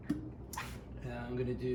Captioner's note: cork pops